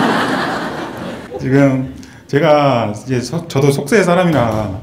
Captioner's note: audience Laughter